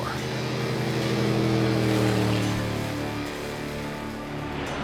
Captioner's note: boat roaring